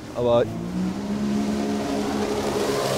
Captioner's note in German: Lautes Brummen